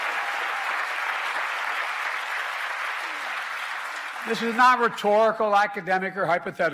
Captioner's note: applause